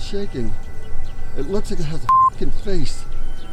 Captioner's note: beep